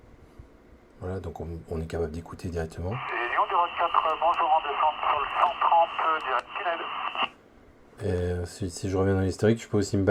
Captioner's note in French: radio